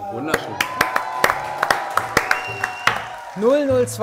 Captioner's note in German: Jubel, Pfiffe